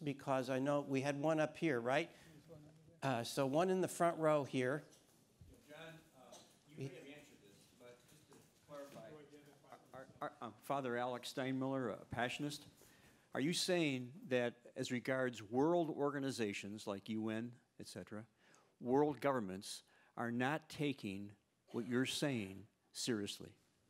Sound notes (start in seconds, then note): 8.0 speaks faintly